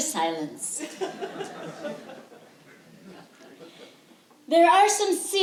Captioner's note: laughter